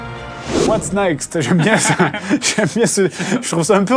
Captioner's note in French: rires